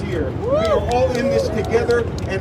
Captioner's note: crowd cheering